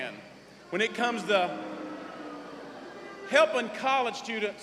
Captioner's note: boos